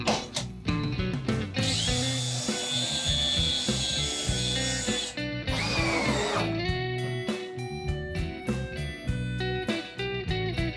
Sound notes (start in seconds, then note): 1.6 drill whirring; 6.8 bright music